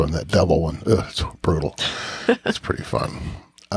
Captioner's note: scoffs